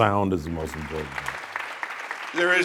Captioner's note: audience applauding